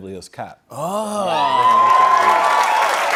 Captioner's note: cheers and applause